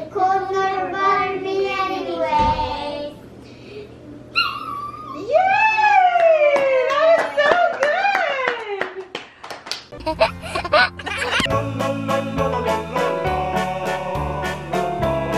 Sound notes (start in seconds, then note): 10.0 laughing; 12.0 cheerful polka music